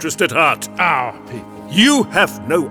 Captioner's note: sarcastically